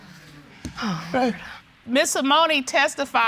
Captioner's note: sighs